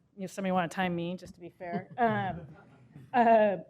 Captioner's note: laughter